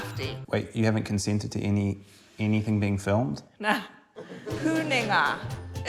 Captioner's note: laughs